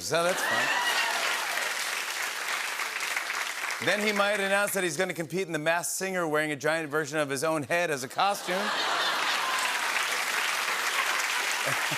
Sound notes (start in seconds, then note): 0.1 applause; 8.3 laughter and applause